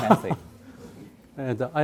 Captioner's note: professor laughing